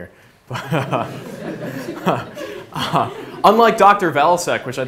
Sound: laughs

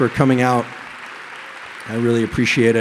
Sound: applause

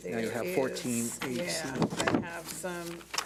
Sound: speaking faintly

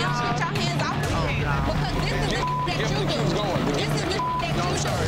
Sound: beep

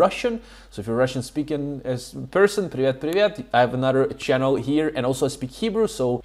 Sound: russian 00:06:17

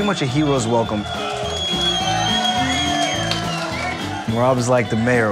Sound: crowd cheering

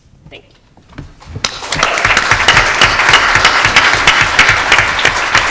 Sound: crowd applauding

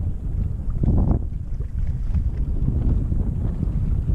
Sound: wind blowing

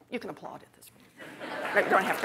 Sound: laughter

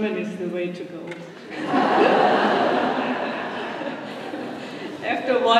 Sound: laughter

